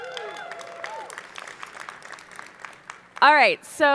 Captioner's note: audience applauding